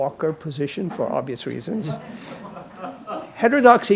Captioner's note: audience laughing